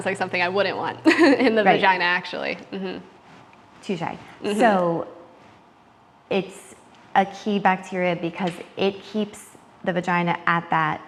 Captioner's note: laughing